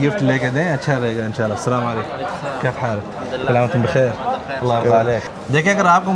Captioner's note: Arabic